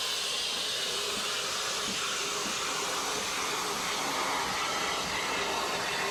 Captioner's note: train passes